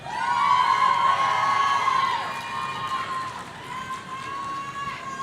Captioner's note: audience cheering